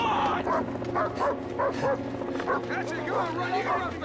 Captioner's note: dogs barking